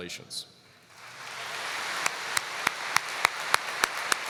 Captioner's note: applause